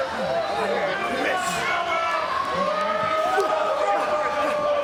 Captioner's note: crowd jeering